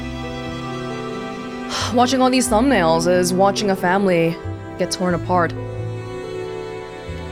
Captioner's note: sighs